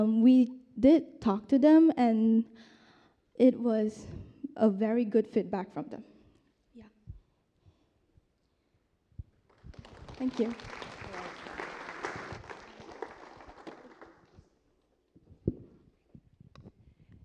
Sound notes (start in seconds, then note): 9.4 applause